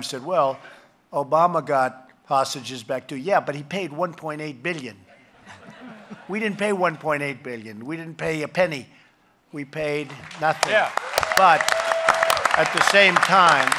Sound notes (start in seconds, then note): 5.4 laughter; 10.1 applause